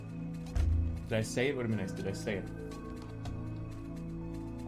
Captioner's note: bottle thump